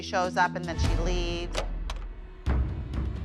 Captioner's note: door opens